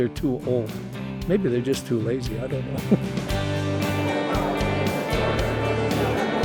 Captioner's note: laughs